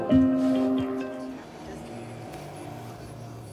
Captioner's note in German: Motorengeräusch